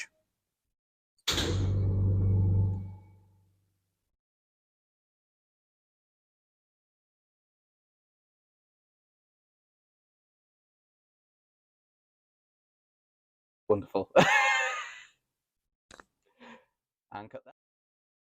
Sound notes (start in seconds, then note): 3.0 awkward silence